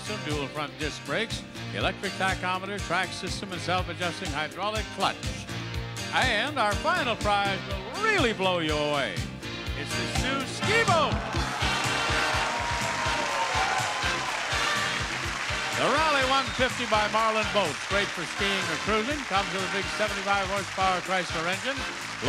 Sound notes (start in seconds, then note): 11.6 audience cheering; 11.6 exciting music